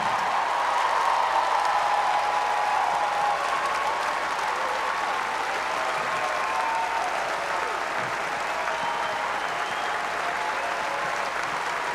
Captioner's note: applause